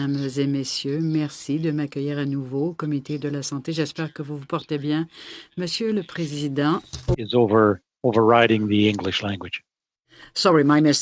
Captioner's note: speaking French